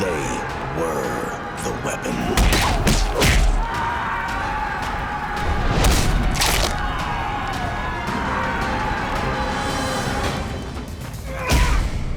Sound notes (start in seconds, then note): 3.5 army yelling